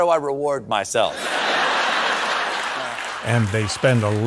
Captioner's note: audience laughing